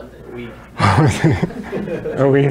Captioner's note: laughs